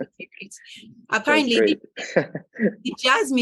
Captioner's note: laughing; chuckling